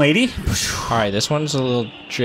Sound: explosion noises

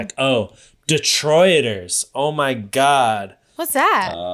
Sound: none

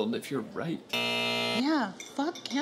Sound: alarm buzzing

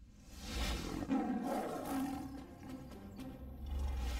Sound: Leo the Lion roars

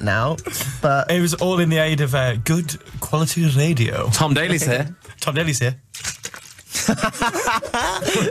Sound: shakes bottle

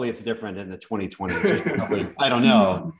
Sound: laughter

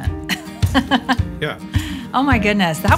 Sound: laughs

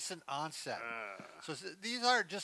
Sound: groaning

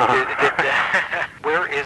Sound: both are chuckling

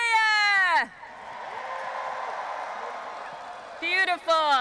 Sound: audience applauding and cheering

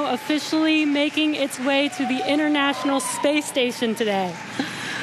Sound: cheering and Applause

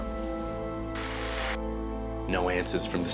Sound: radio buzzing

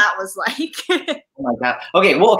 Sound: laughs

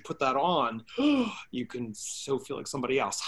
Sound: gasping

